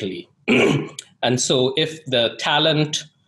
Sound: clears throat

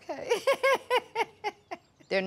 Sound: laughs

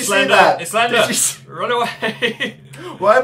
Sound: laughs

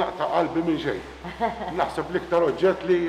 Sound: chuckles

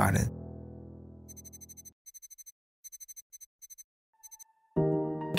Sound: electronic beeping; inspirational instrumental music

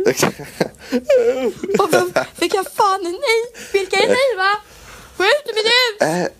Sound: buhu

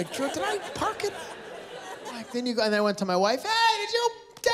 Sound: laughter

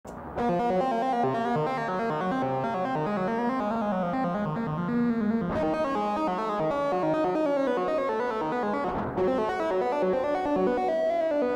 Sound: robot noises

